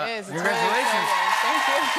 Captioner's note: cheers and applause